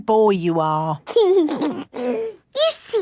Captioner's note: giggles